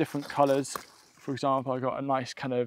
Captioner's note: chard crunches